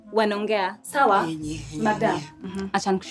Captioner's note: mimics Eve